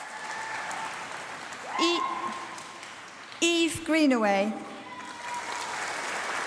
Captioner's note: applause